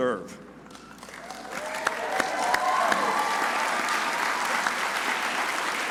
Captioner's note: crowd cheering and applauding